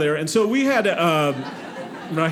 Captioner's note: audience laughing